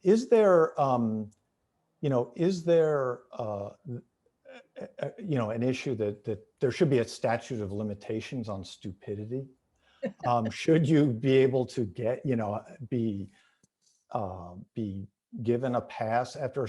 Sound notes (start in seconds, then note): 10.0 laughing